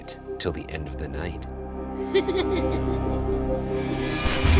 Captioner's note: laughs